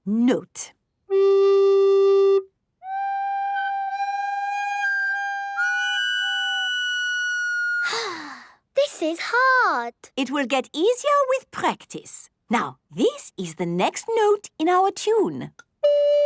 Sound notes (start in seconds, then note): 5.3 off-key; 7.8 sighing